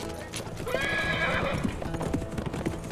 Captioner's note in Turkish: At kişniyor